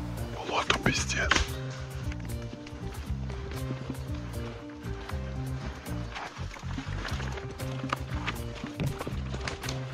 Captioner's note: steps in the woods sounds